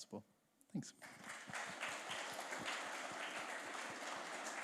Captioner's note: applause